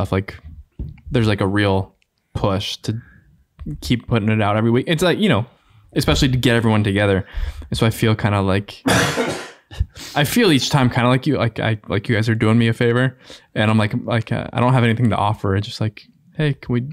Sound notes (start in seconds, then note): 8.8 man coughing